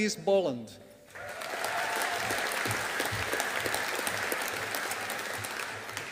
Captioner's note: audience applauding